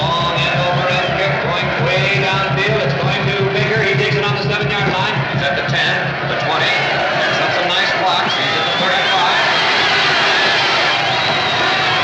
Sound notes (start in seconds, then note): 9.5 cheering loudly